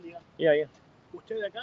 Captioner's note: conversation